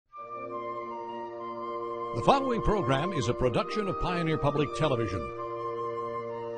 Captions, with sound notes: - [Voiceover] The following program is a production of Pioneer Public Television.